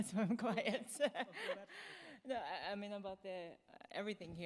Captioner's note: laughing